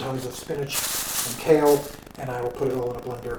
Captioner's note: bag crinkles